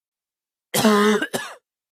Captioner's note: cof cof cof